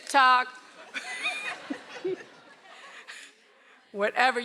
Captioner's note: laughs